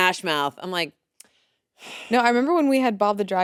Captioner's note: sighs